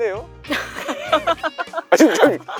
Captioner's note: laughter